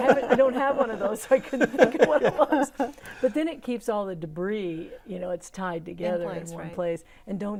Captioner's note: laughing